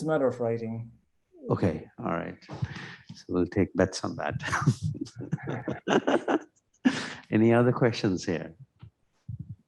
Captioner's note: laughs